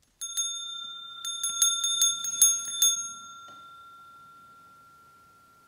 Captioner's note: bell ringing